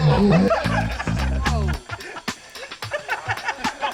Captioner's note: crowd laughing